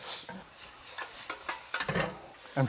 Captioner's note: sizzling